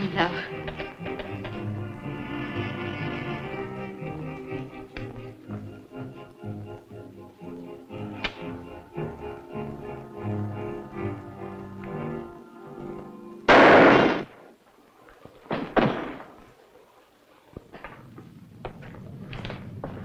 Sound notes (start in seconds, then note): 13.5 gun firing; 15.7 thuds